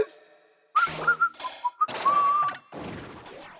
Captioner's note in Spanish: Sale silbando